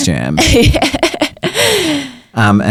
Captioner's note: laughs